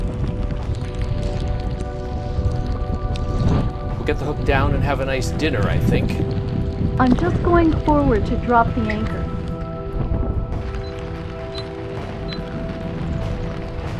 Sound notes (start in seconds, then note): 12.2 beeping